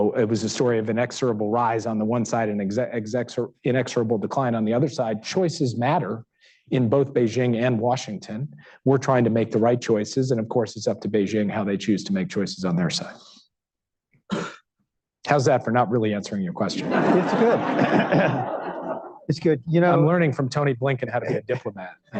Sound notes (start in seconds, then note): 16.7 laughter; 21.2 laughter